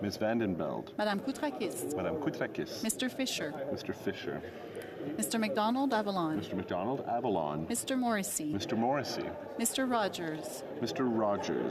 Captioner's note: calling of recorded vote